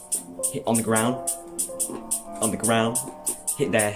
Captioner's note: Microsoft bling